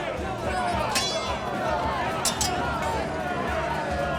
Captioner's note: crowd shouting